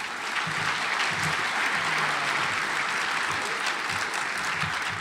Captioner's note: audience applauds